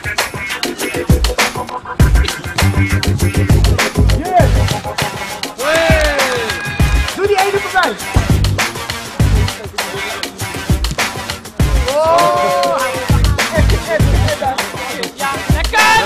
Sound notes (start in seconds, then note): 5.6 cheering and applauding; 5.9 rhythmic music playing